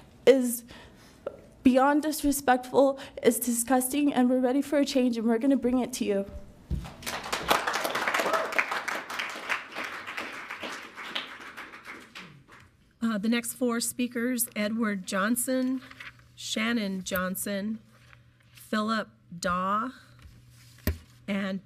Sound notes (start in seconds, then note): 6.8 audience clapping